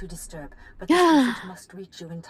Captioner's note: gasp